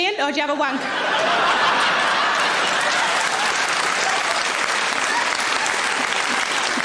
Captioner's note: audience laughing; audience applauds